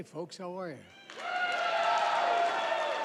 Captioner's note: applause